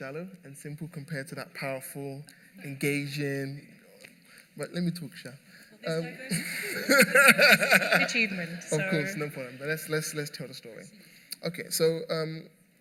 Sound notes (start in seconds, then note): 4.2 laughter